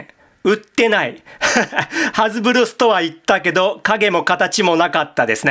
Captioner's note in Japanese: 笑い